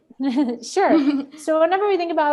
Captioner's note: laughs